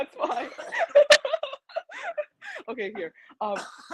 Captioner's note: laughs